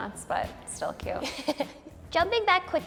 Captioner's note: laughs